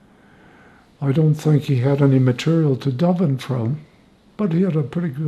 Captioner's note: hebrew